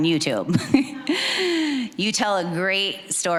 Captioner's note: chuckling